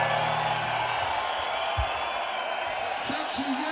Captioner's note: cheering